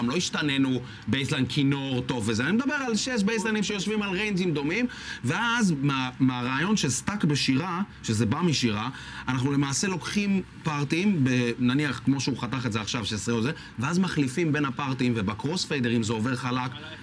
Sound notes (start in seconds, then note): none